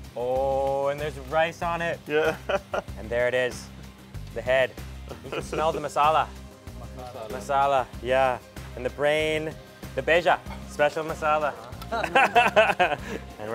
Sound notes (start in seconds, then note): 9.8 speaks foreign; 11.4 laughs